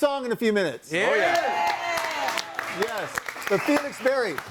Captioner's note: audience applauds and cheers